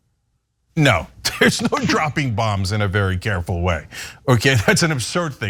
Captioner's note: laugh